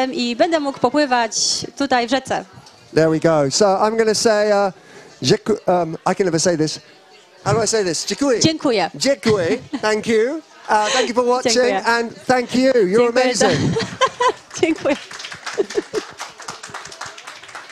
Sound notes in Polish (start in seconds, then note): 7.4 śmiech; 13.7 oklaski